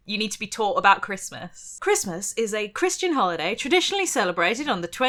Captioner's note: none